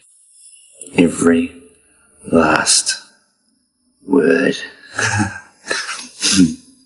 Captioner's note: laughs